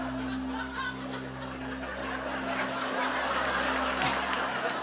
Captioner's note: dramatic music plays; laughter